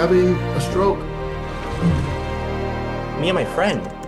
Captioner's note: burbling